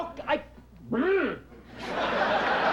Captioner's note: groans